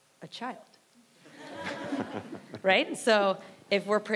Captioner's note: audience laughs